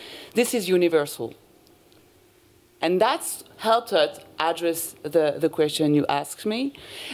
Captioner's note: none